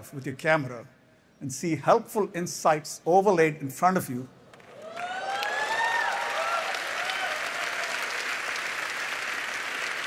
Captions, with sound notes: with your camera and see helpful insights overlaid in front of you. [cheers and applause]